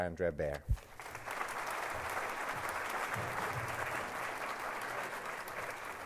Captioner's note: applause